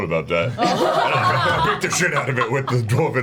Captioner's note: all laugh